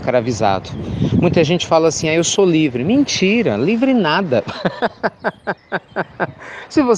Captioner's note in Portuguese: Risos